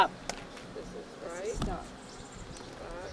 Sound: audience repeating instructions

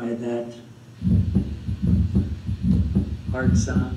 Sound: heart beating

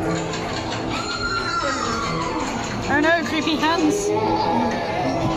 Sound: scream

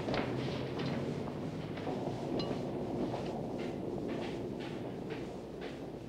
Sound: thunder

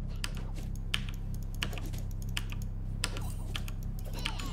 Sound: keys clacking

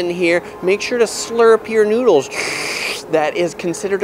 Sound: slurping

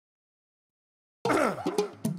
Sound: cough

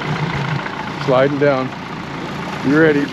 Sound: fish splashing

